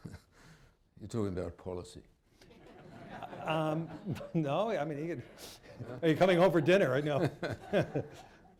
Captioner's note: laughter